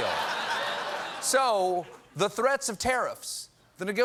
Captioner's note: laughter